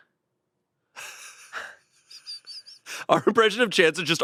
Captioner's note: laughs